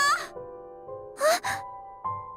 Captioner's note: gasp